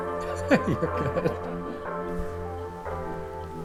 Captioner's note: upbeat music continues; laughs